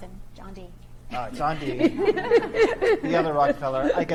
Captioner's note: laugh